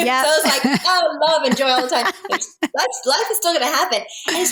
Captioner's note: laughing